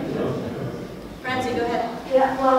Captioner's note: audience chuckles